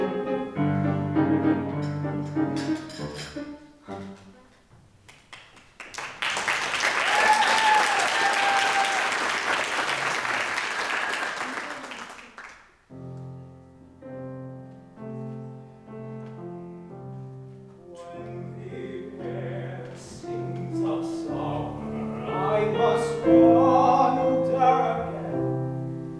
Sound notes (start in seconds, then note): 8.7 audience applauds; 15.8 gentle music